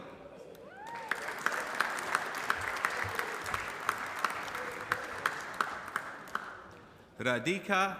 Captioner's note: applause